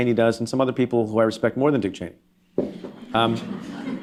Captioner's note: laughter